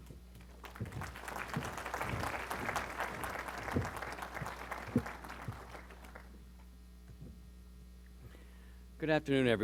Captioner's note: applause